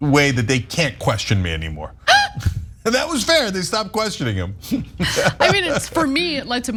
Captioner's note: laugh